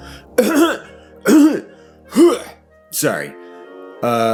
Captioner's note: clears throat